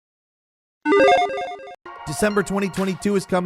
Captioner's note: electronic chiming